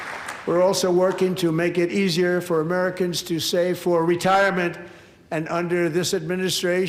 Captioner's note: applause